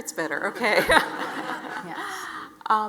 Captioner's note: audience laughs